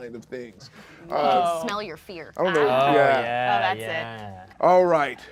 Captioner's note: overlapping chattering